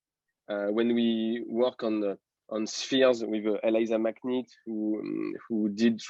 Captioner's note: voice muffling